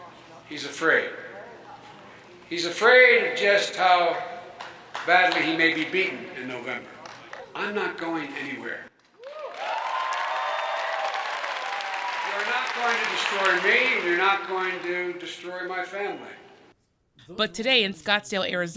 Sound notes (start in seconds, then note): 9.1 cheering and applause